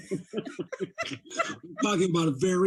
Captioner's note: laughing